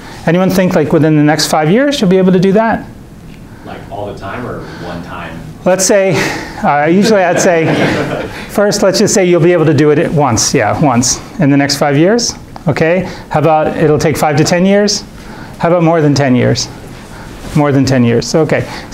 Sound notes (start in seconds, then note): 7.8 students laughing